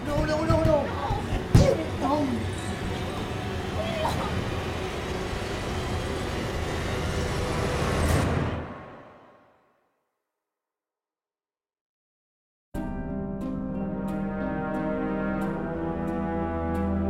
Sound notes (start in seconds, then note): 9.1 silence